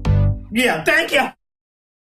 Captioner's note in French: Voix forte